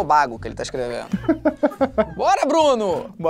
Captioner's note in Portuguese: risadas